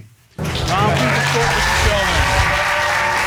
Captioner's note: audience applauding